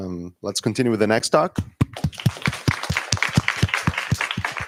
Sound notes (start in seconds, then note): 1.9 applause